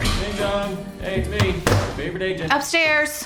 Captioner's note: front door opens; slams laptop shut